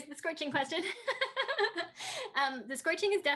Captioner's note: Tui laughs